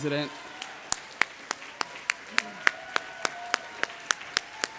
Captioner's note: audience applauding